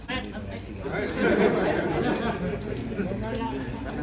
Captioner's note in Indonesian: Jama'ah tertawa